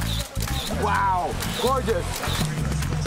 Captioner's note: camera snaps